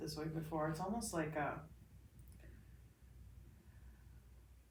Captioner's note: exhales deeply